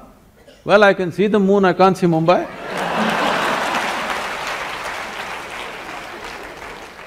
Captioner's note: laughter and Applause